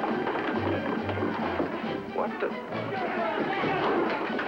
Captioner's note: yelling